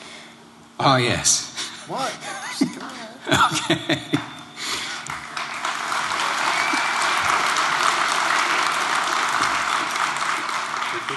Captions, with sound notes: (Laughter) (Applause) >> Yeah, yeah, yeah. Yeah. >> Very good with it. (Laughter) >> I guess